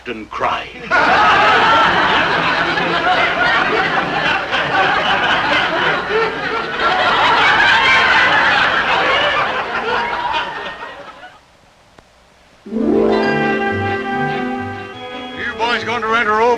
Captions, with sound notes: of a police station than the men seeing their captain cry. (audience laughing) (cheerful music)